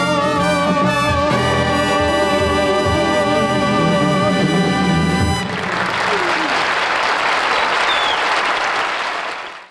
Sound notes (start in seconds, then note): 5.4 audience clapping